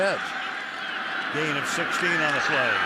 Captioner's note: cheering